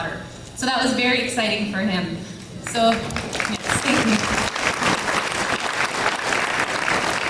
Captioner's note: claps